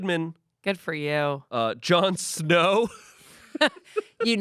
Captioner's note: laughs